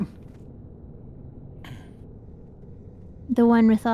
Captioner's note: coughing